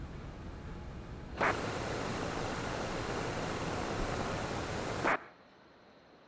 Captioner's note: static